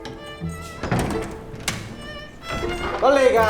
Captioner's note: door creaks open